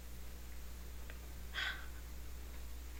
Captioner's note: gasps